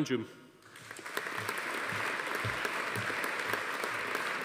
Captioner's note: audience applauding